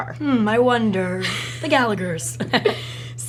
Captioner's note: laughs